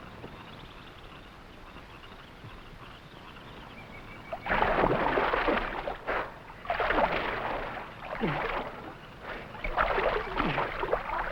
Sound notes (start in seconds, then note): 0.0 animals chattering; 0.0 frogs croaking; 4.3 water sloshing; 5.2 Gorman grunting